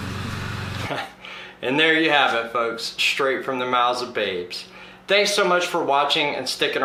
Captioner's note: laughing